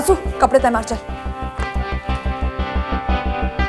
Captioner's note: Door opens